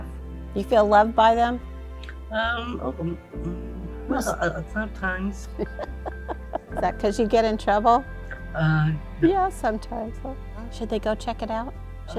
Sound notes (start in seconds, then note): 5.5 chuckles